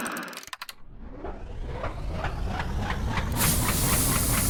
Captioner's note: latch clicks; machine starts; steam hisses